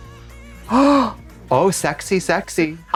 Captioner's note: Trixie gasps